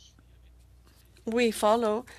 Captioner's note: speaking French